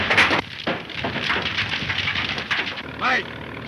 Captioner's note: flames crackling